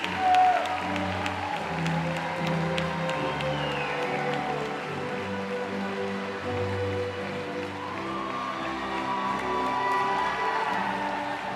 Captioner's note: applause